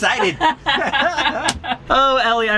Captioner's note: laughing